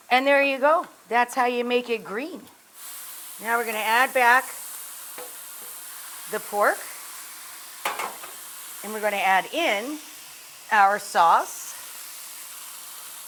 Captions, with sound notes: And, there you go. That's how you make it green. Now we're gonna add back the pork, (tongs tap pan) and we're gonna add in our sauce,